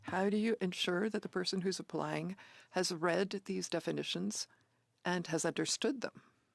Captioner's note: speaking French